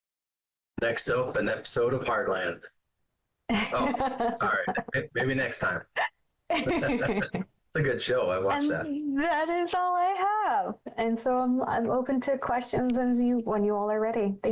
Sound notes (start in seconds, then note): 3.5 laughs; 6.5 chuckles